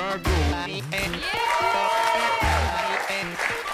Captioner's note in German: Jubel und Applaus